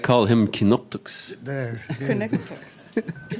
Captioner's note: laughter